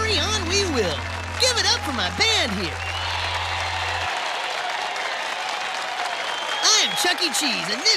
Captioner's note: audience cheers in response